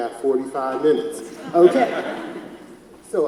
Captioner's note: audience laughs